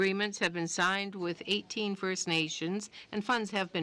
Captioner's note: speaking french